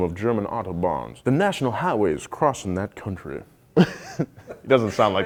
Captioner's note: laughs